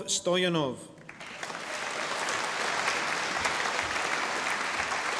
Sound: audience applauding

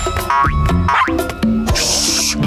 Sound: barking

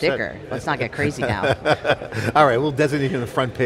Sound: laughs

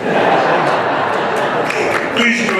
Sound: laughter

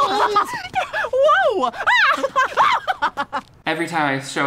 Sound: laughing

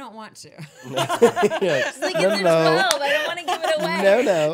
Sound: laughing

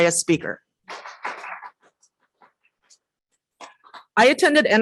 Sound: applause

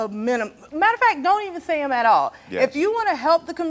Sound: none

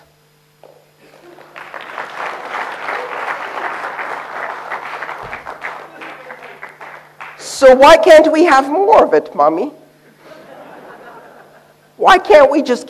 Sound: applause

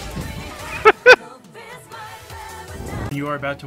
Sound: chuckles

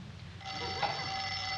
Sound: phone ringing

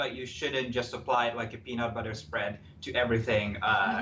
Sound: laughing

